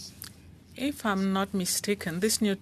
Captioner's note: speaking French